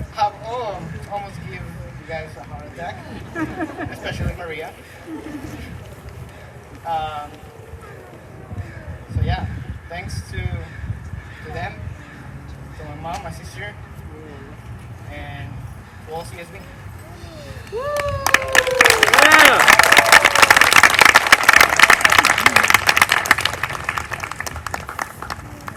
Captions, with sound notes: have all almost gave you guys a heart attack, especially Maria. ( Laughter ) So, yeah, thanks to them, to my mom, my sister and to all CSB. ( Applause )